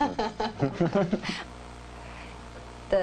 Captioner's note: laughing